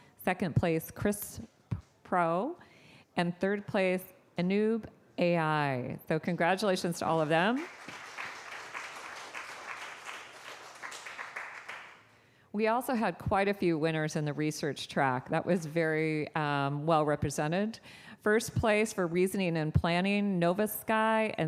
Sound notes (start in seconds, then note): 7.2 applause